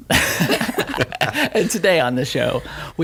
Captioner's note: laughing